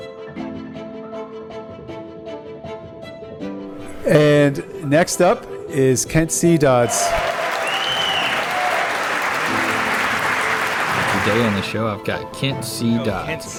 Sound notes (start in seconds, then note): 6.8 audience cheering